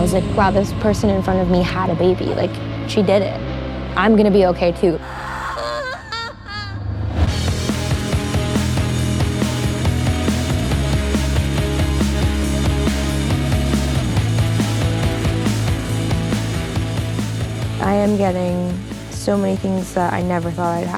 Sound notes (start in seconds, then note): 5.0 crying; 7.5 intense music